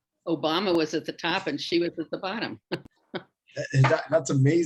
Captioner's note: chuckles